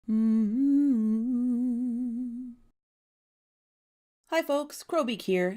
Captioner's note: intro humming